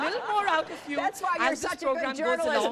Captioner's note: laughter